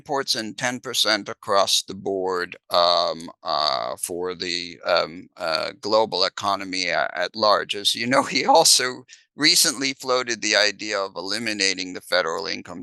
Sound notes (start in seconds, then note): 7.1 laughs